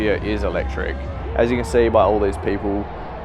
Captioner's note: crowd cheering